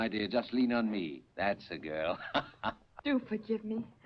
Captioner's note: laughs